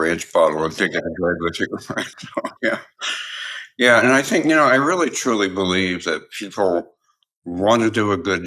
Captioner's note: laugh